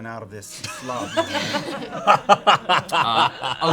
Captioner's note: laughter